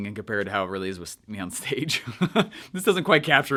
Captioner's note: chuckles